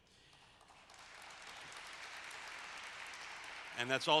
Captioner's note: applause